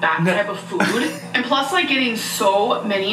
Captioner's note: laughs